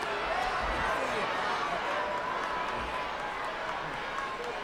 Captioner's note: audience chattering